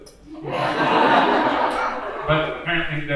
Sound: audience laughing

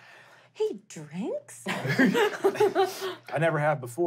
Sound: laughing

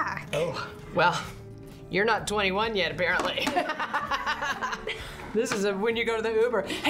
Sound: laughs

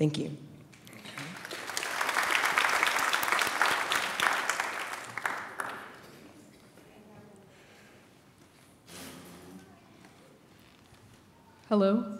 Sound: applause

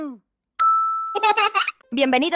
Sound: bell rings; laughs; laughter

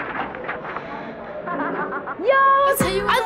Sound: singer laughs

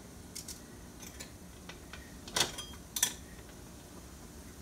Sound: metal clinks

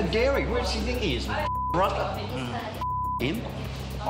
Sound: beep

